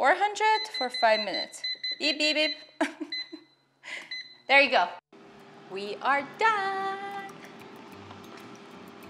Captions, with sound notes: 400 for five minutes. (beeping) Beep, beep, beep. (chuckling) there you go. We are done!